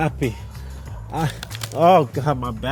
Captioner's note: crack